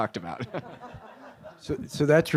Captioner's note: laughter